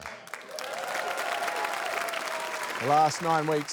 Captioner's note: applause